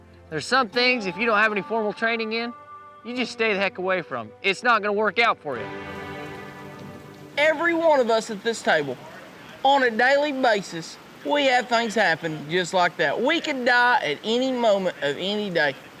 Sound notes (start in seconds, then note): 5.8 rain pouring